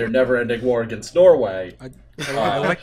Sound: laughter

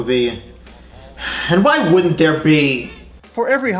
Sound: sigh

